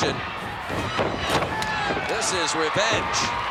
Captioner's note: feet scampering; body slams